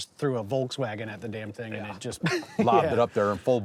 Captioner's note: laughs